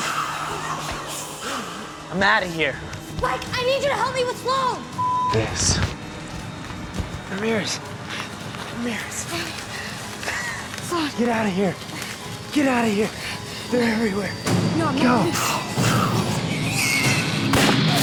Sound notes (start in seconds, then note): 15.1 growls